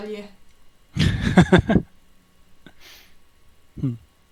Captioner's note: laughs